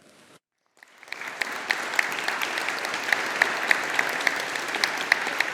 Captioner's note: audience applauding